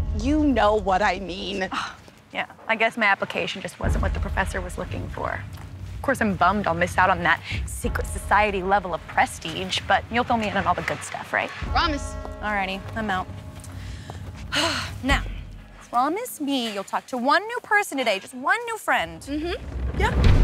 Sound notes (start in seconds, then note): 1.4 scoffs; 13.8 sighs